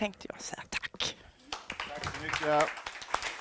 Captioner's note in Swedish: Applåder